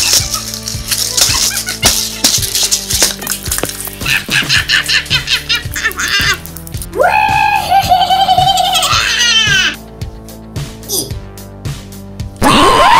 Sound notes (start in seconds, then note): 2.9 egg breaks